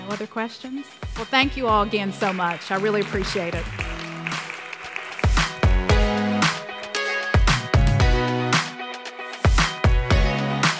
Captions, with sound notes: No other questions? Well, thank you all again so much. I really appreciate it. (applause) (upbeat music)